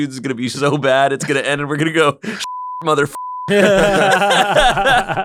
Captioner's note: beep; laughter